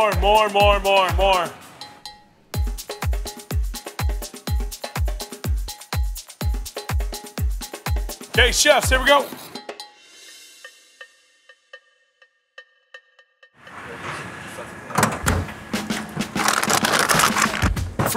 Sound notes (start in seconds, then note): 3.0 upbeat music; 13.7 tailgate clangs; 15.6 upbeat music